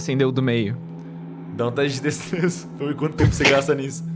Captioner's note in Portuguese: Risada